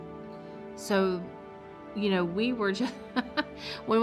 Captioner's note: laughs